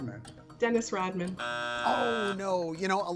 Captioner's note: bell drones